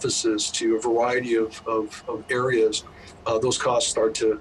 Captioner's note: bus humming